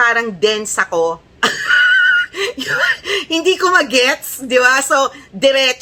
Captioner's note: laughter